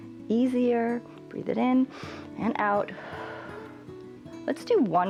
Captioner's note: exhales